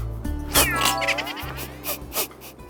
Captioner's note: laughing